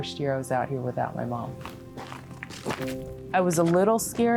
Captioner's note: feet shuffling